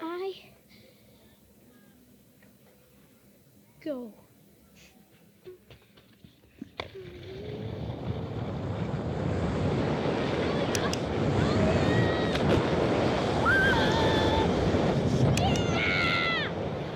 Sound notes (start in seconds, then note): 7.9 wind whooshing; 13.1 skier exclaiming